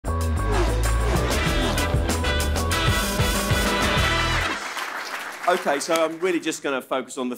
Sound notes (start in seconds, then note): 3.6 applause